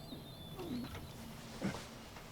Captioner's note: grunts